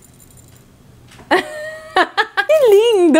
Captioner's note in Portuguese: risos